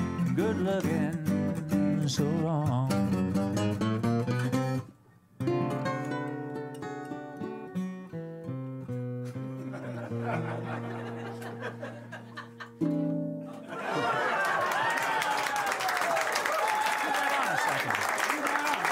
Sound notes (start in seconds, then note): 13.7 cheers and applause